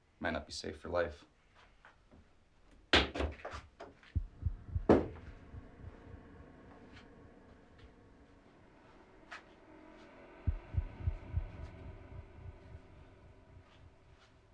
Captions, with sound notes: --it might not be safe for life. [ambient swirling]